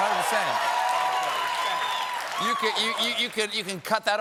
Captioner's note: cheers and applause